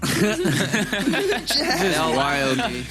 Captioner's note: laughter